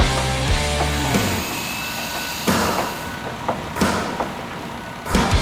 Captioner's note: saw whirring